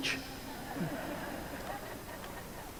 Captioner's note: laughter